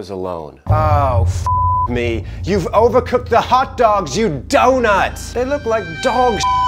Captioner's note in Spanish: beep; beep